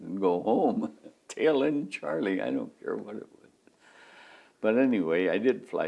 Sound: laughs

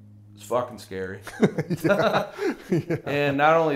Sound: both laughing

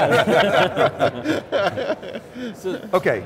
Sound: men laugh

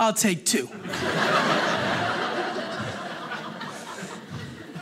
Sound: audience laughing

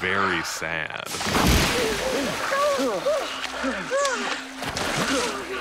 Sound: surprised exclamation

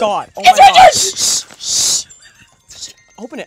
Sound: phone rings

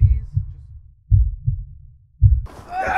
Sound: heartbeat thumping; yelling

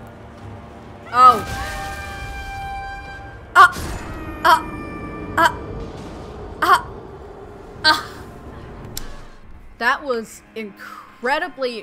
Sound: horn blowing, stilted laughs/scoffs

